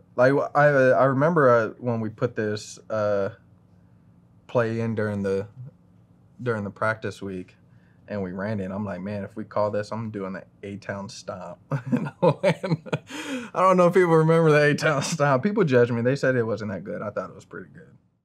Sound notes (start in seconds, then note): 11.7 laughs